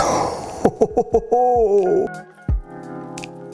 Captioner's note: laughter; soft music